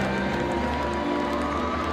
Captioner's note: crowd cheering